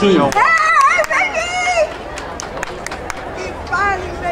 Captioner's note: woman cheering